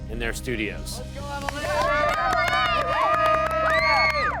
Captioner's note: cheering